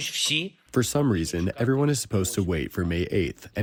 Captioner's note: through translator